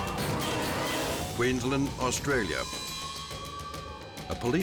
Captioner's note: dramatic music; siren blares